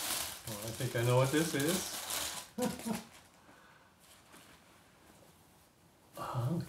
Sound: chuckling

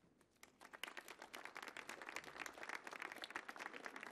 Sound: audience clapping

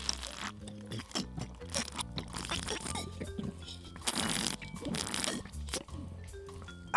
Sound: drinking noises

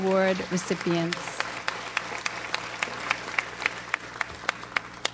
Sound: audience applauds

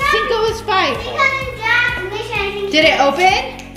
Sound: child exclaiming

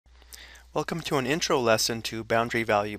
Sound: voiceover

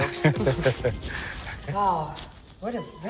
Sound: laughing

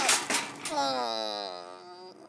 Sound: grunts

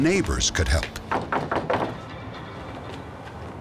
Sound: knocking

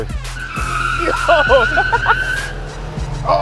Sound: laughing

